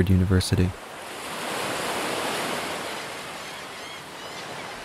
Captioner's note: waves crashing